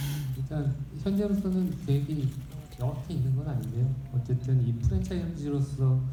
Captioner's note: speaking in foreign language